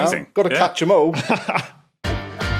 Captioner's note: laughs